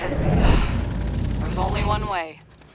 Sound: heavy sigh

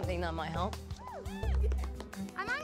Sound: cheering

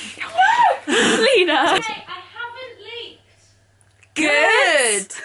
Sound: laughs

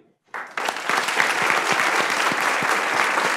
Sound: applause

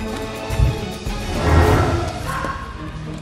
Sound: heavy whooshing; dog barking

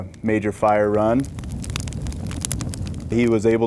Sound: crackling fire

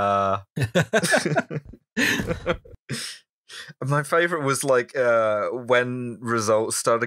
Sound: laughter

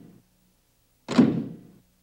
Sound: thump

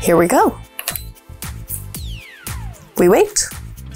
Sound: kettle beeps

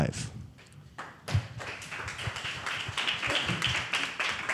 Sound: applause

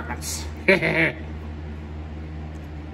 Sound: Caprice laughs and giggles

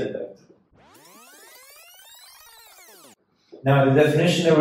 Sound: fast forward buzzing

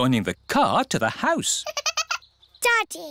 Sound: giggling

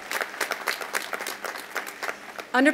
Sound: applause

